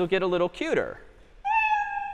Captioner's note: meow